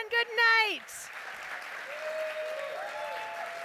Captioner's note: applause